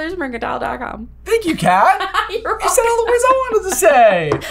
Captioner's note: laughing